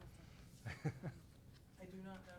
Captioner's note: laughs